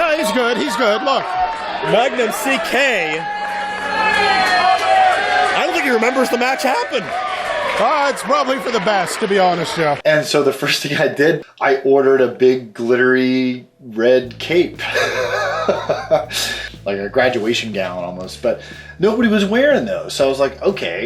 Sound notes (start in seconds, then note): 3.6 audience cheering; 14.8 laughs